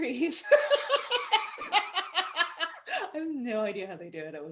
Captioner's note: laughter